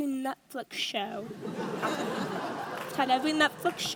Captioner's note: audience laughs